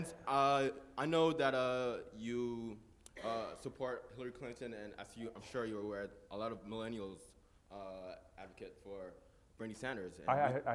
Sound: laugh

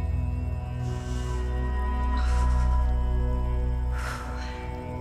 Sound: breathing deeply

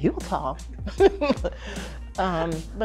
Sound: laughter

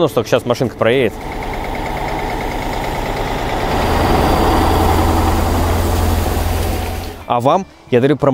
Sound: working engine

